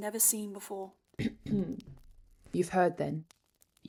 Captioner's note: Regulus clears his throat